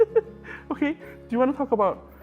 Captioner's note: laughs